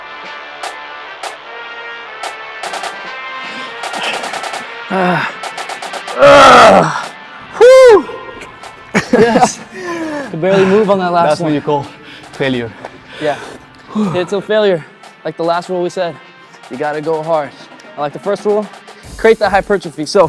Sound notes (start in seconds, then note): 4.8 grunting; 8.0 laughing